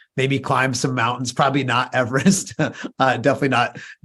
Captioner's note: chuckles